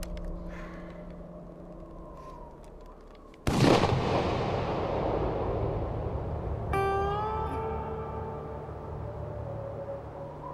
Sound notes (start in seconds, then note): 3.4 gunshot rings; 6.9 guitar twang